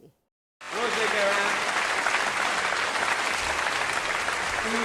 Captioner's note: applause